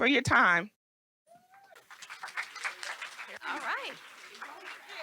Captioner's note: audience applauds